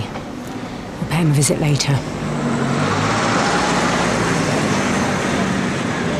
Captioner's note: vehicle engine revving